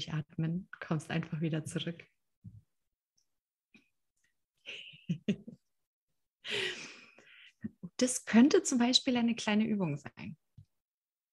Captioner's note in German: lacht